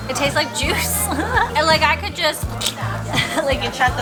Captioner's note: slurp